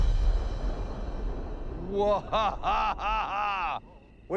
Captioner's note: laughing